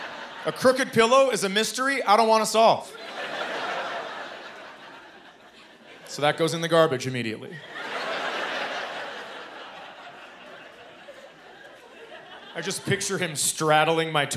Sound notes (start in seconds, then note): 2.9 laughter; 7.5 laughter